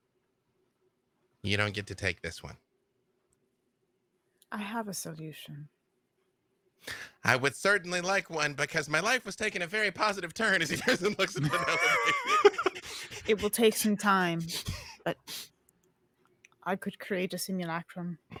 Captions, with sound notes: You don't get to take this one. - I have a solution." - I would certainly like one because my life was taking a very positive turn. As he then looks the other way. (laughs) - It will take some time, but I could create a simulacrum.